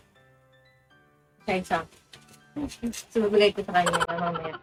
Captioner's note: laugh